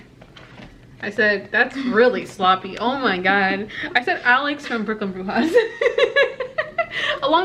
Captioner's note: both laugh